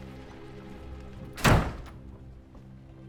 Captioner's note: slams door